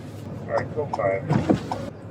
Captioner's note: radio chatter